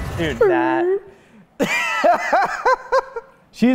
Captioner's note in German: Lachen